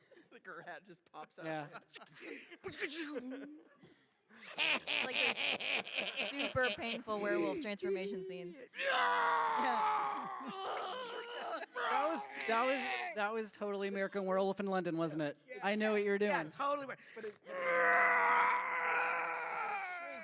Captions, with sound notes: Like her hat just pops out of her head. [laughing to himself] Like those super painful werewolf transformation scenes. [screams] That was totally American Werewolf in London, - wasn’t it? I knew what you were doing. - Yeah, totally where, [screams].